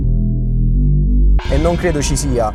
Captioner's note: gong!